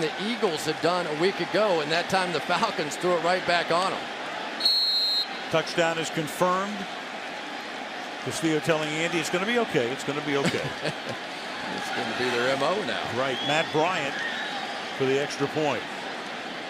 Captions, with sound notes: It was something that Eagles had done a week ago. And that time, the Falcons threw it right back on them. [whistle] Touchdown is confirmed. Castillo telling Andy, it's going to be OK, it's going to be OK. [laughs] It's Going to be MO now. Right. Matt Bryant for the extra point.